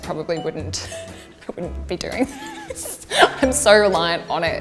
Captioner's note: chuckles